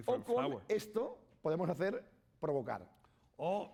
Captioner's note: speaking spanish